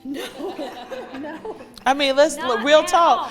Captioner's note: laughing